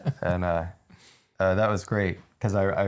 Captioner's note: both laughing